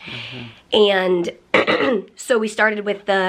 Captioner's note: clears throat